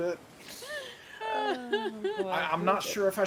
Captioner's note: people chuckling